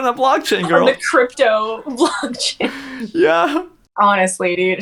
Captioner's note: laughs